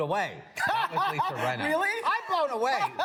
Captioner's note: laughs